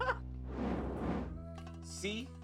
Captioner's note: rcfoed laugh